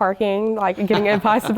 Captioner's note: laugh